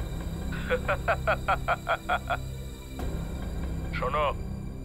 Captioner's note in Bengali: সশব্দ হাসি